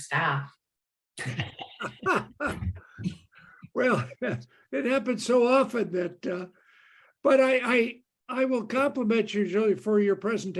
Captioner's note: chuckle